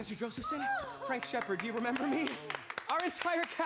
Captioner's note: gussie gasps